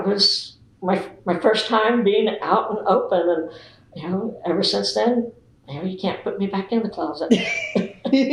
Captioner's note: laughter